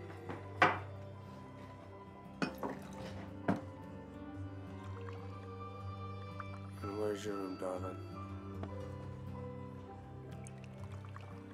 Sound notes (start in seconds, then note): none